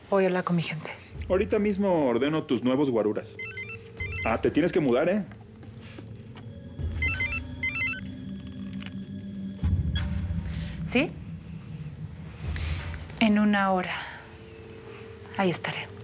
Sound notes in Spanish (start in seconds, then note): 3.9 suena el celular; 6.8 vuelve a sonar el celular